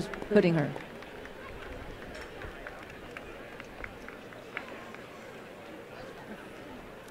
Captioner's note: applause